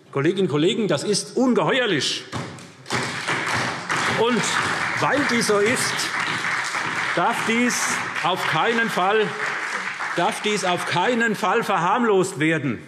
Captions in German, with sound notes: Kolleginnen und Kollegen, das ist ungeheuerlich. [Beifall SPD und DIE LINKE] Weil das so ist, darf dies auf keinen Fall verharmlost werden.